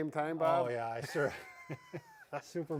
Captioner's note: laughs